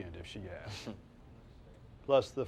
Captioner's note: Silk chortles